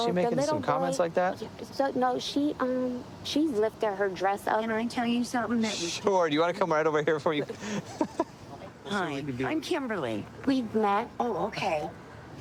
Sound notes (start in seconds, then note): 7.6 laughing